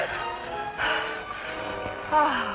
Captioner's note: sighs